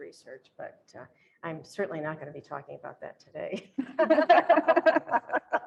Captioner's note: laughter